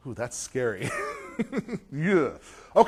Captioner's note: laughter